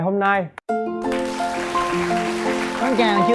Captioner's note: applause